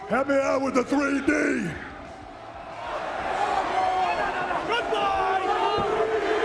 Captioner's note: applause